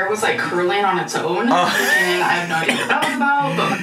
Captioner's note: laughing